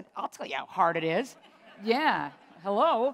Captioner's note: laughter